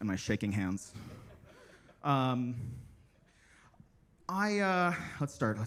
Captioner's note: attendees laughing